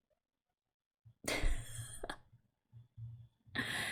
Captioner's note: laughs